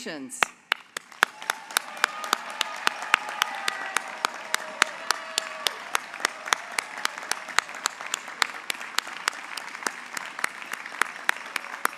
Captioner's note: applause